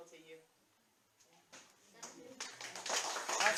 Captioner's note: applause